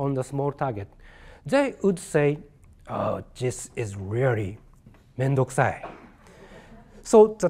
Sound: speaking japanese

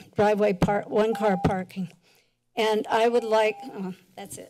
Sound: timer rings

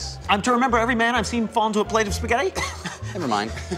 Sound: scoffing laughter

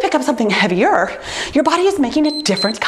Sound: timer beeps

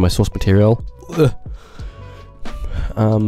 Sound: guttural sound

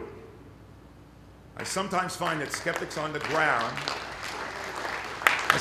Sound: applause

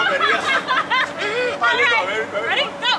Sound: laughing

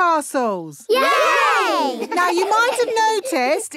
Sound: laughing

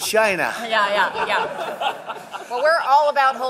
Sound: laughter

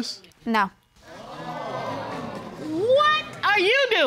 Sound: audience exclaims

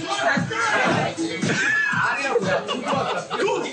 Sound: staff laughs

